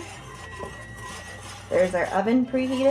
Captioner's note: oven beeps